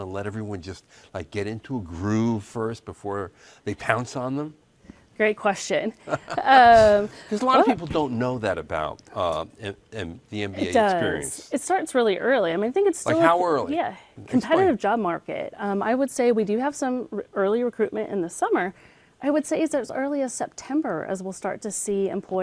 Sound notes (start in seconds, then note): 6.0 laughs